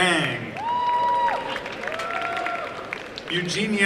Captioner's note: applause and cheering